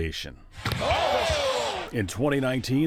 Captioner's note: crowd cheering; announcers exclaiming